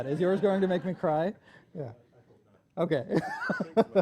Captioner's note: laughs